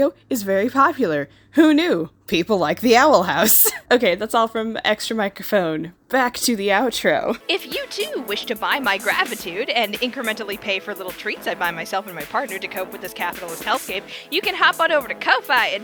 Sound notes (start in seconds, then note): 1.2 tired chuff